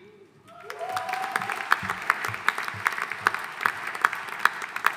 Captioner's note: audience applauding